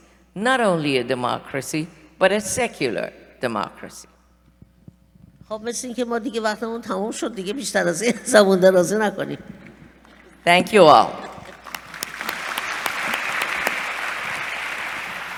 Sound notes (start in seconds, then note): 5.1 speaking persian; 11.2 applause